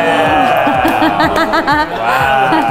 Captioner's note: laughs